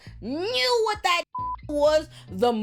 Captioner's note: beep